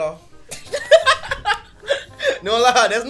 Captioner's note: laughs